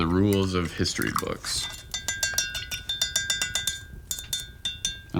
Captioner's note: brush clinking